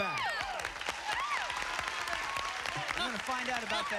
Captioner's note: cheers and applause